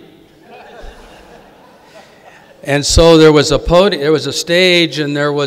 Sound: audience laughing

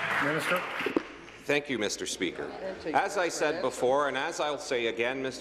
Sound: applause

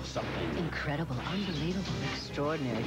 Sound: gunshot; various "seductive" female voices in quick succession; glass breaking; explosion

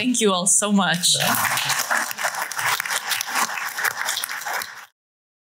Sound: applause

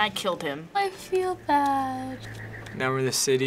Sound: remorsefully

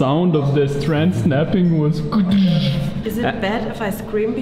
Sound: vocalizes

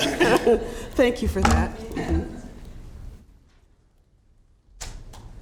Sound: laughter

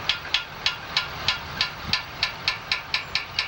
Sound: motor humming

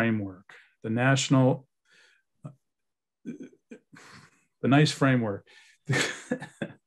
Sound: chuckles

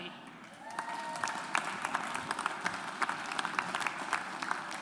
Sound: audience applauds

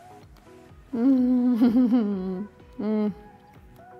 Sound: laughs

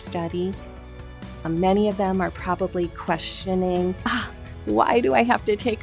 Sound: sighs

